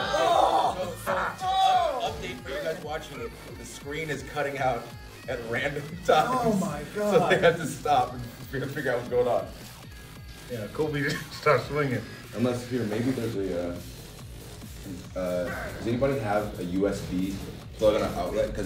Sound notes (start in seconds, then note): 11.0 laugh